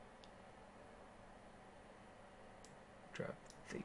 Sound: keyboarding

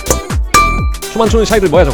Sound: bonk!

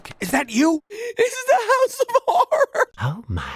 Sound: terrified, almost crying

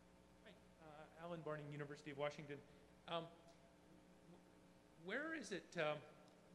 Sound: voiceover

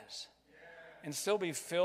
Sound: crowd

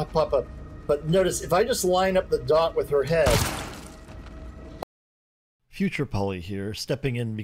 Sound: gun shot

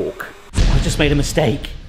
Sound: weight thumps dramatically

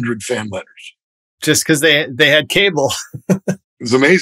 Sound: laughter

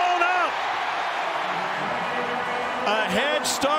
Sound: crowd

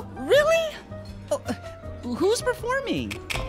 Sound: stammers

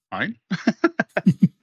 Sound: laughs

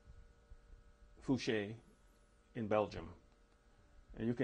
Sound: non-english

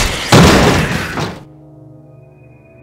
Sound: bang

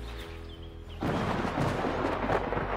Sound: thunder

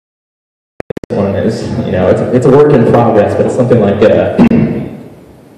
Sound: clears throat

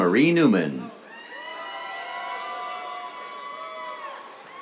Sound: cheers, applause

